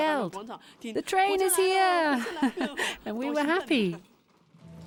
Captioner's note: laughing